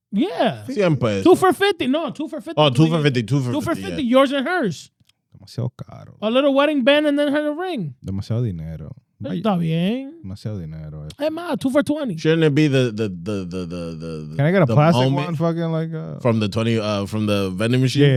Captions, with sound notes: Yeah. Two for 50. No, two for 50. Two for 50, yours and hers. (Speaking In Foreign Language) A little wedding band and then her ring. (Speaking In Foreign Language) Hey, Ma, two for 20. Shouldn't it be the, the, the, the, the, the. Can I get a plastic one? From the 20, from the vending machine.